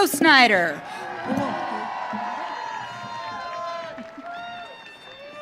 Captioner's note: audience cheering